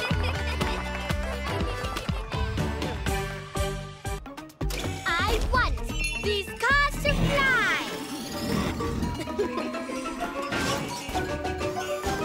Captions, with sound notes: I want these cars to fly! (Giggles)